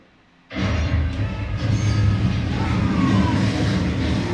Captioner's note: explosion, metal bending and screams